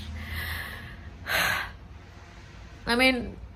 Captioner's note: sighs with a cry